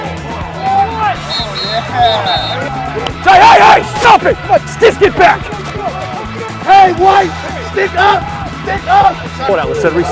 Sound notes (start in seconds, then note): 1.2 whistle; 1.4 yelling on field